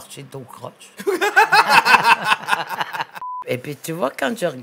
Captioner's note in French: rires